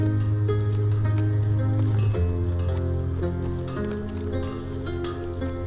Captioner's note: metal Clanking